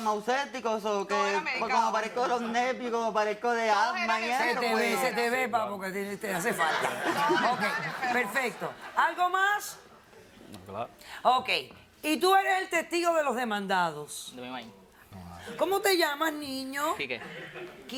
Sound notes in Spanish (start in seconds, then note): 6.5 Risas